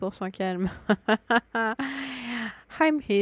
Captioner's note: laughs